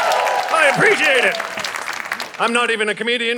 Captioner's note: audience cheering